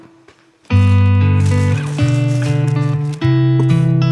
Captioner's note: plastic bag rustling; relaxed guitar music